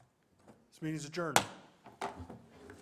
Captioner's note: gavel bang